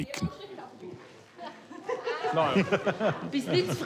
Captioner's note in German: Lachen und Gespräch im Hintergrund